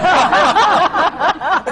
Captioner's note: laughter